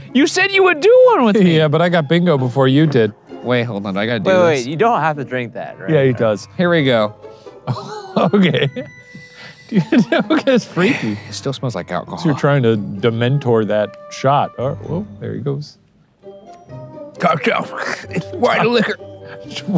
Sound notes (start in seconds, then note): 7.6 laughs; 17.7 gagging